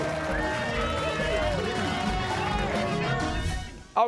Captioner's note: cheers and applause